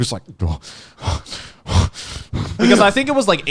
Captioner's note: panting